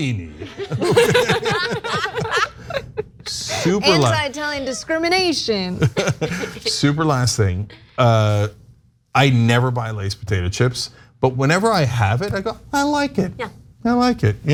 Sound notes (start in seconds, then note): 5.7 laugh